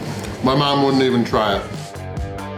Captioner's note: none